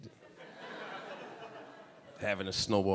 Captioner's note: audience laughing